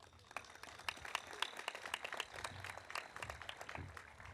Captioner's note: audience applauding